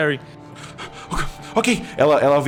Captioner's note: panting